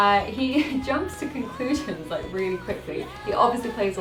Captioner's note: laughs